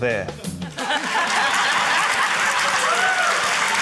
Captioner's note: laughter; laughter, applause